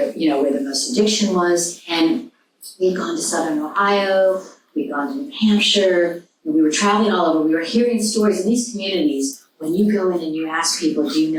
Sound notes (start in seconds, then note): none